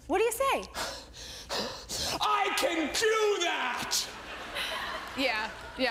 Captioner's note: panting